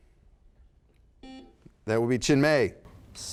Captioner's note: buzzer sounds